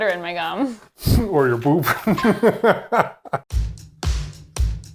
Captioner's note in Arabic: يضحك; موسيقى الروك